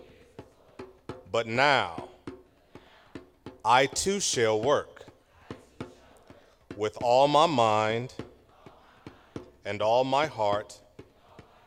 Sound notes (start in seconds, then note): none